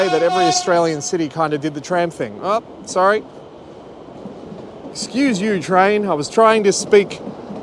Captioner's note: horn beeps